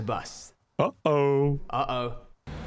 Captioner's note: voiceover